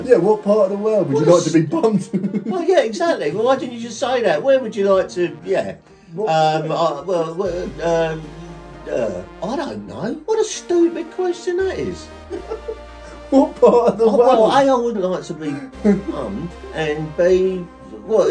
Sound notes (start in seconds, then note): 7.0 father stammering